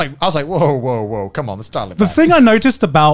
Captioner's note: murmurs